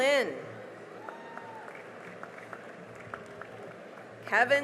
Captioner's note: cheering and applause